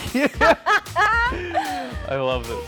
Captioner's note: couple laughing